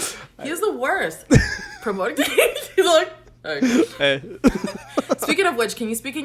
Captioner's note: laughs